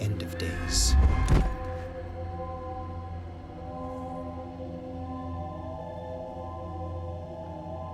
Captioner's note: suspenseful music; body thuds